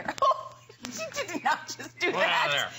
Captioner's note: laughter